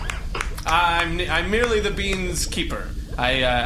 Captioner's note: everyone applauds